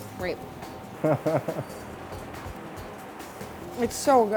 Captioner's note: laughing